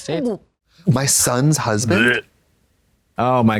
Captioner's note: Katya gags